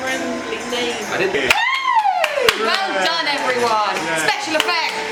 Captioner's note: applause